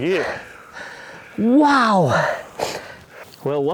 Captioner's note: sniffing